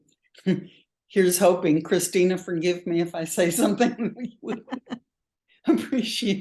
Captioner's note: laughs